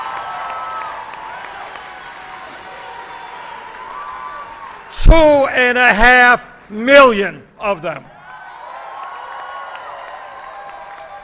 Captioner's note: applause